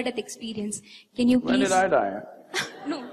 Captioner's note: laughter